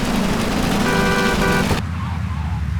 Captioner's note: horn honking